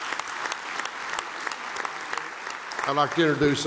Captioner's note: applause